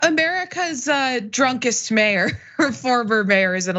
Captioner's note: laugh